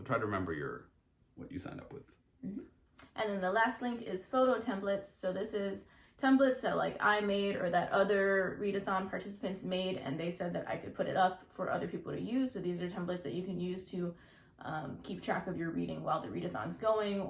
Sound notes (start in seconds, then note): none